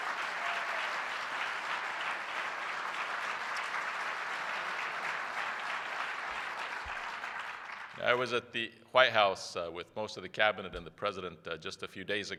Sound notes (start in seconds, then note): 5.8 applause